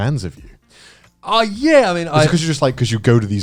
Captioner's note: all laughing